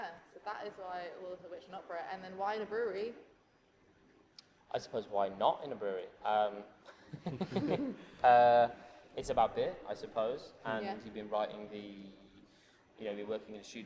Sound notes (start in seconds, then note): 7.0 chuckles